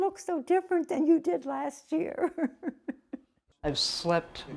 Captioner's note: laughter